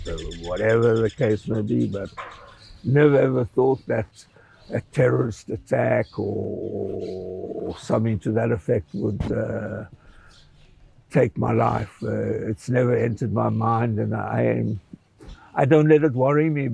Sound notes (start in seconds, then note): none